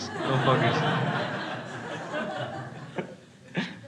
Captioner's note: crowd laughing